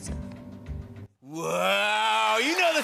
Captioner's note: cheers and applause